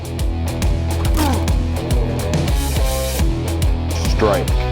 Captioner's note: man grunting